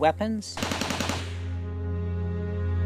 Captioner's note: gunfire